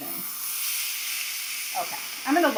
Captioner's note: chicken sizzling